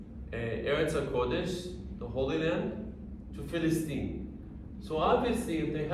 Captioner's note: speaking arabic